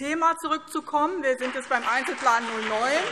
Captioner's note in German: Beifall BÜNDNIS 90/DIE GRÜNEN und CDU